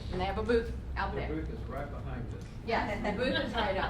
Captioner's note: voiceover; laughter